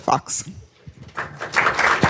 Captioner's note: applause